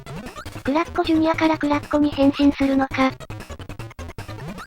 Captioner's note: confused